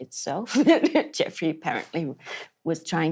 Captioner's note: laughs